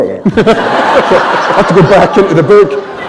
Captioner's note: laughter